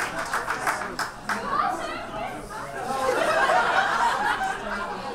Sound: audience chatters

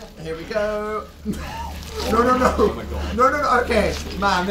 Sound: wheeze

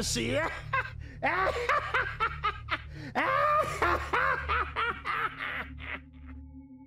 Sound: laughing

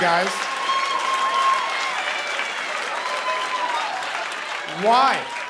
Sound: cheering and applause

